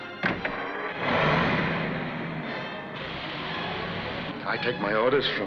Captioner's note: dramatic music; car engine roars